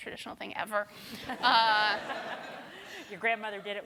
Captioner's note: laughter